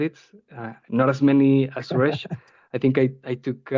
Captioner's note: laughing